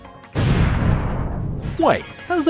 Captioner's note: boom